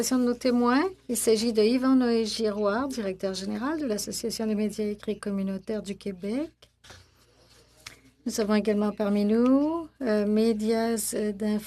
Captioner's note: speaking French